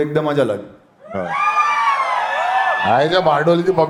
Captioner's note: crowd applauding